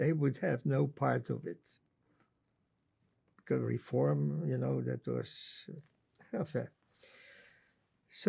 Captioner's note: french